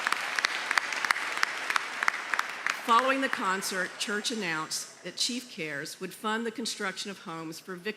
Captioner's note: cheers and applause